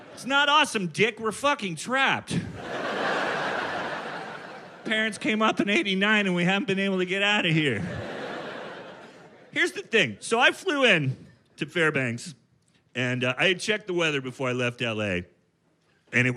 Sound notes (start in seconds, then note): 7.3 audience laughing